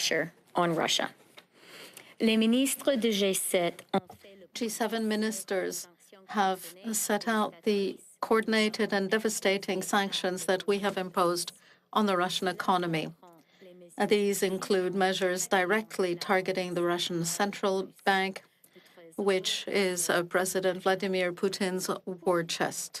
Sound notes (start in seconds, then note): 7.5 speaking French